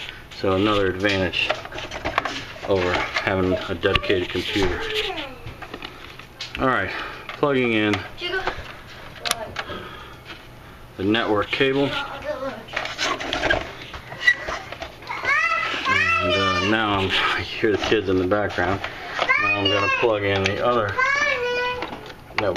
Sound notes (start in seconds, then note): 15.0 kids screaming